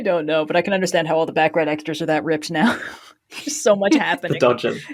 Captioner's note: laughs